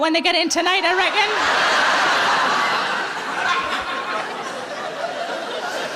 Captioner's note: audience laughing